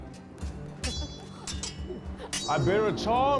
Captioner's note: laughing; swords clanging